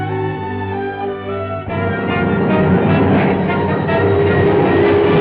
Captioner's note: tank whirring; dramatic music